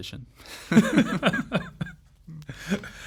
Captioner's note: laughs